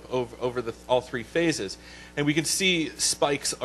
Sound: voiceover

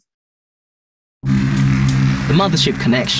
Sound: dramatic noise

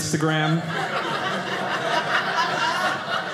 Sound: audience laughing

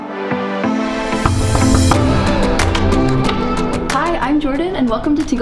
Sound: upbeat music; door knock

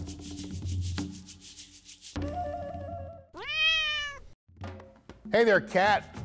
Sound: jungle music; cat meows

